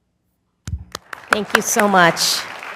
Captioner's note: applause